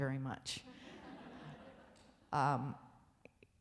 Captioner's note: audience laughs